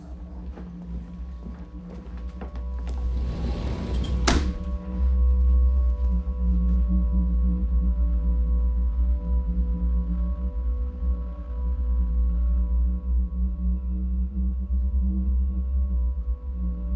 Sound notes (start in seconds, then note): 0.2 dramatic music continues; 2.8 door sliding; 3.2 dramatic music continues; 13.2 dramatic music continues